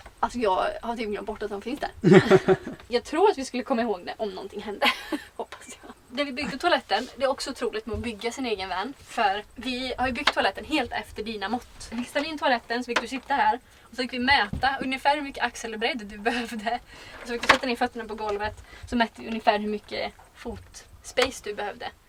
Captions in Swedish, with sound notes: Alltså jag har typ glömt bort att de finns där [Skrattar] Jag tror att vi skulle komma ihåg det om nånting hände, hoppas jag När vi byggde toaletten, det är också otroligt med att bygga sin egen van, för vi har ju byggt toaletten helt efter dina mått Vi fick ställa in toaletten och så fick du sitta här och så fick vi mäta ungefär hur mycket axelbredd du behövde Och så fick du sätta ner fötterna på golvet och så mätte vi ungefär hur mycket fot space du behövde